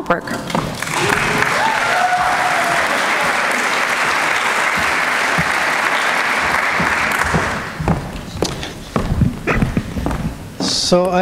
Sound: applause

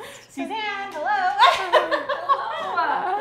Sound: laughs

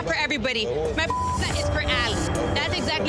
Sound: beep

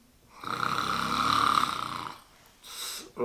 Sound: snores louder

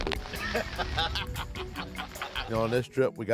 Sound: laughter

